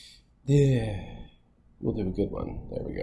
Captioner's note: sighing